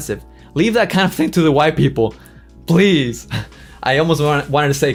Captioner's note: chuckles